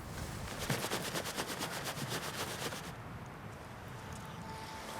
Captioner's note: sleeping bag shuffles